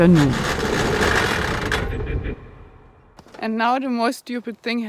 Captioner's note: bike creaking